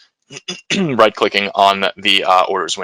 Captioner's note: clears throat